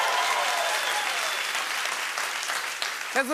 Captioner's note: cheering and applause; whistling